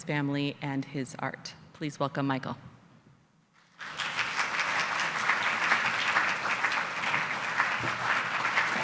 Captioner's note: applause